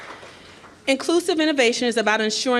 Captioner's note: applause